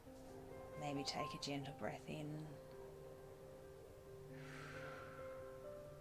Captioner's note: inhaling